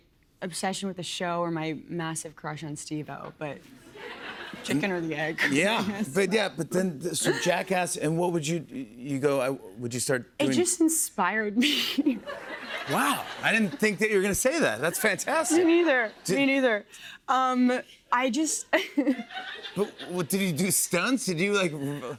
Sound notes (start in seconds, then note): 19.0 laughs